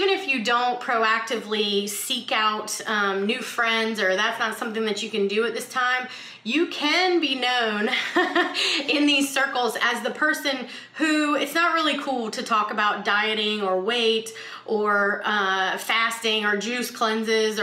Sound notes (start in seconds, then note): 7.9 chuckles